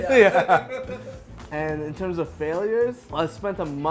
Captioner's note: laughing